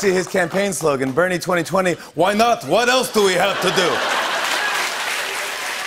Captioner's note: As Bernie Sanders